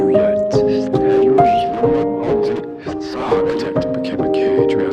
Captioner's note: interference